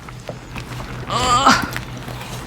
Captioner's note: grunt